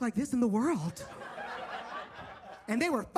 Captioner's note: audience laughs